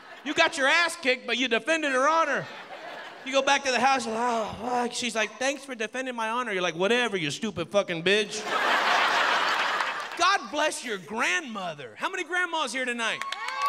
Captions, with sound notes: YOU GOT YOUR ASS KICKED, BUT YOU DEFENDED HER HONOR. YOU GO BACK TO THE HOUSE [ GROANING ] SHE'S LIKE, "THANKS FOR DEFENDING MY HONOR." YOU'RE LIKE, "WHATEVER, YOU STUPID FKING BITCH." GOD BLESS YOUR GRANDMOTHER. HOW MANY GRANDMAS HERE TONIGHT?